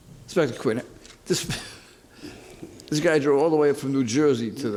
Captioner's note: laughs